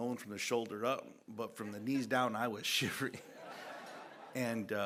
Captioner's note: laughter